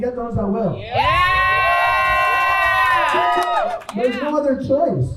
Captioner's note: crowd cheers